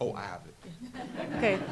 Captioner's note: laughter